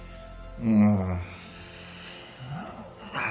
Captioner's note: groaning